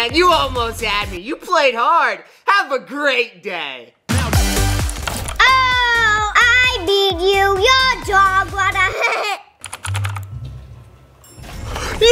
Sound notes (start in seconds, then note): 4.8 keyboard clicking; 8.8 laughs; 9.6 keyboard clicking